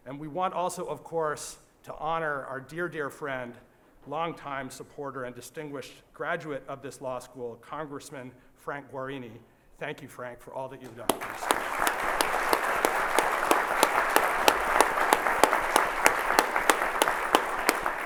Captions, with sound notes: And we want also, of course, to honor our dear, dear friend, long-time supporter and distinguished graduate of this law school, congressman Frank Guarini. Thank you, Frank, for all that you've done. (applause)